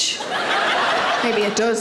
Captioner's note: audience laughs